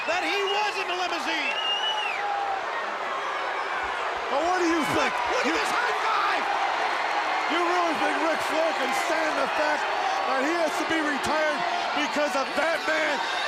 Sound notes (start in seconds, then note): 1.3 crowd cheering; 6.3 crowd cheering